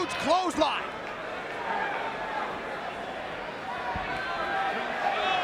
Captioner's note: crowd chattering